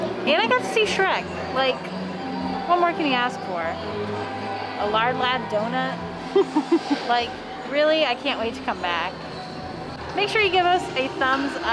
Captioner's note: laughs